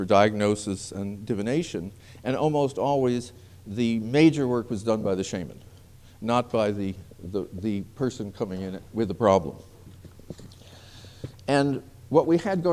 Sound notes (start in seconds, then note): none